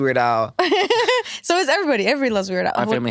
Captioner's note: laughs